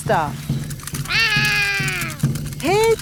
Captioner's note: roaring